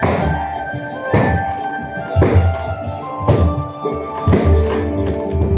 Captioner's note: thumping